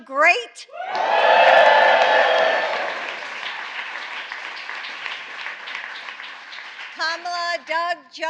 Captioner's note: applause